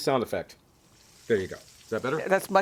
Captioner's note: sizzling Sound